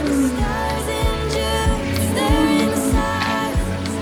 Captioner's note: heavy breathing